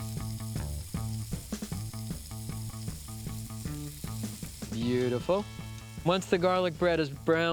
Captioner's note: sizzling